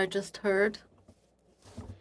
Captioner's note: speaking French